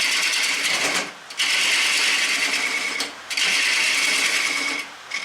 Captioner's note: noise of woodturning lathe and woodturning